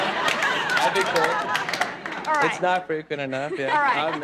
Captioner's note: audience laughs